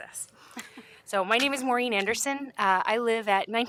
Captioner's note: laughter